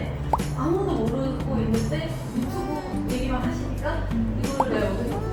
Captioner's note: hehehehehe